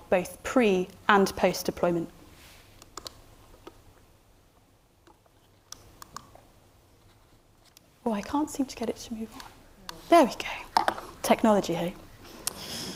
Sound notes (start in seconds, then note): 4.8 remote clicking